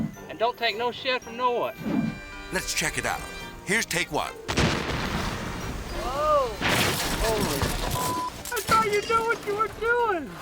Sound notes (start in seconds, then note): 4.5 explosion rumbling; 4.6 whimsical music